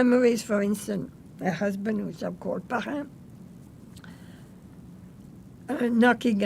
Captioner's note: french